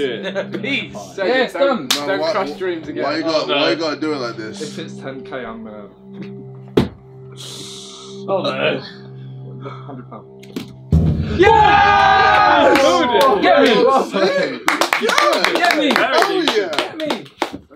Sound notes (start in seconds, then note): 0.2 all chattering; 6.8 tense music; 10.5 drum beats; 11.2 all cheering; 14.6 all clapping and chattering